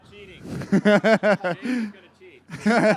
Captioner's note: laughs